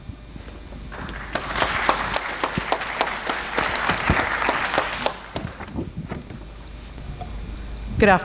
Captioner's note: applause